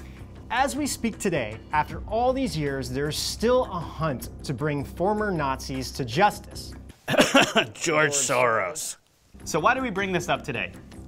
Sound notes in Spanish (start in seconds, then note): 7.0 tosiendo